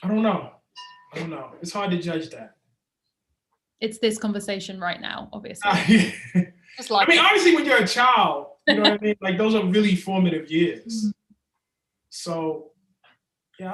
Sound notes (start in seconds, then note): 5.6 Ta-Nehisi chuckles